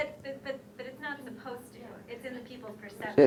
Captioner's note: voiceover